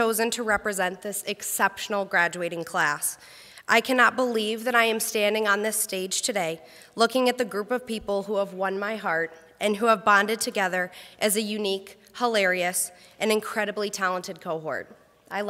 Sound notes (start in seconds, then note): none